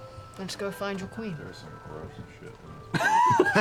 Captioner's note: quietly; laughter